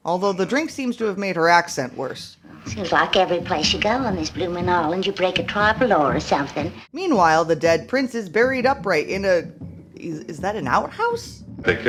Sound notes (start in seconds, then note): 2.6 bad british accent